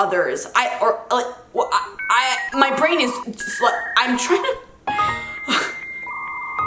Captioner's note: stammer; computer humming